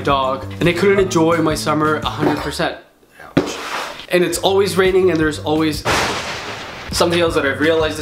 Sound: hits a box; thunder sound

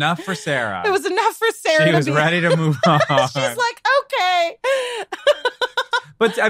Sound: laughs

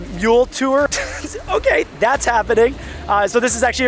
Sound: chuckles

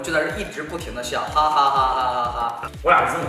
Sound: ha ha ha ha ha

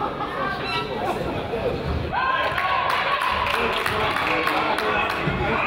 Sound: crowd laughs; crowd applauds

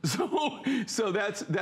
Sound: laughter

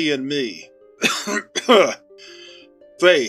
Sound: Mr. Doe coughs

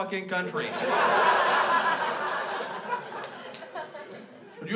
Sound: crowd laughs

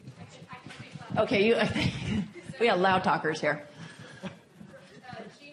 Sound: laugh

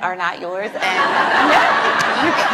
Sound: laughs

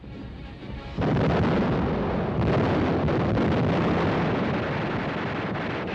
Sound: guns firing and bombs exploding

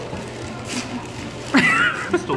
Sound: laughs

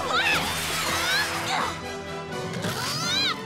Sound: grunting

